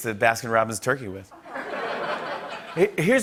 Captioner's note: laughter